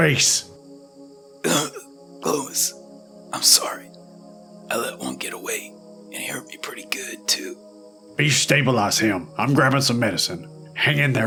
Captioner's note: coughs